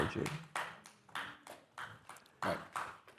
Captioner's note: participants applauding